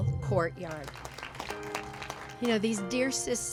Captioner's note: audience applauds